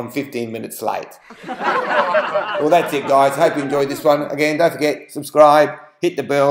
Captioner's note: laughter